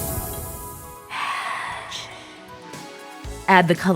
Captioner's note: magic